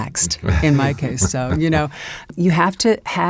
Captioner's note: laughs